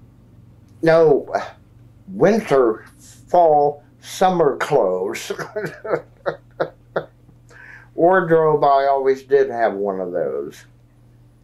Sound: laughs

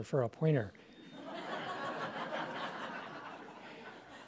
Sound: laughter

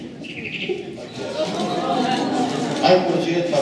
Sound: audience Awwing

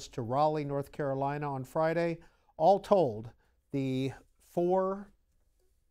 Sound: none

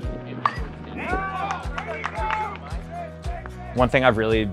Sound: bat dings; team cheers

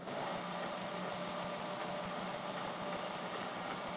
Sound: lathe whirring

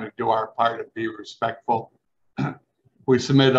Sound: clears throat

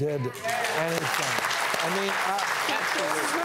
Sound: applause

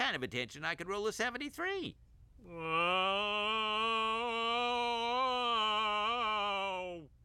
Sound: groaning

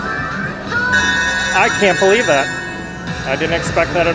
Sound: bell ringing

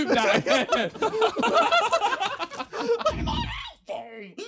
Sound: Sidemen laughing

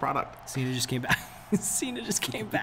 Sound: laugh

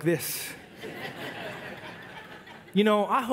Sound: congregation laugh

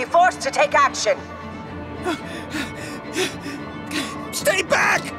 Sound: panting

